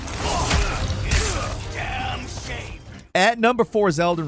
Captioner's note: men grunting